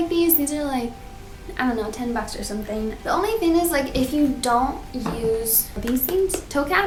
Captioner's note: tapping